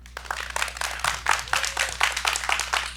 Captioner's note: applause